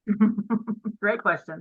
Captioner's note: giggling